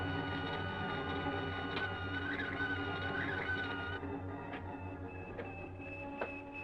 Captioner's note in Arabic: التصفير